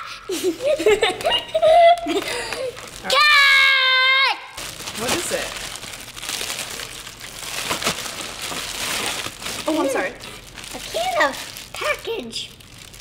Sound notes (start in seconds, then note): 0.2 laughing; 6.5 package ripping